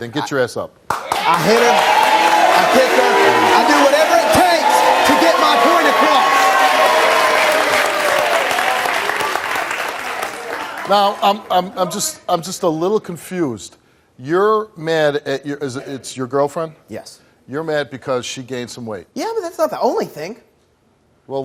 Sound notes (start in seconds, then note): 7.4 audience cheering